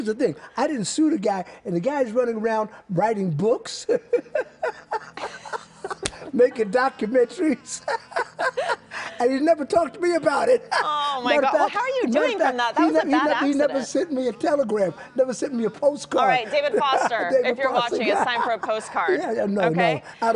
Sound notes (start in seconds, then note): 12.7 laughter